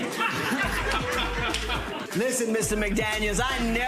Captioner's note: audience laughter